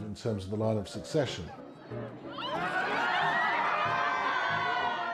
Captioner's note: crowd laughing